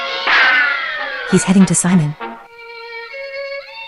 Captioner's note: whispering